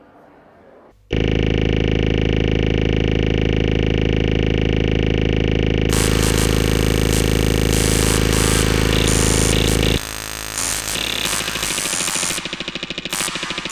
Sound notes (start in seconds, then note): 1.1 electrical sounds